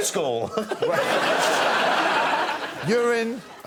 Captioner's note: laughter